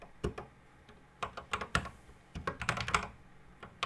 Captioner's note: typing on a C64 keyboard